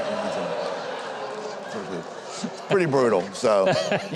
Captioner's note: crowd shouting; crowd laugh drowns off speaker